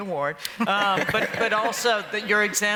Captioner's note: laughter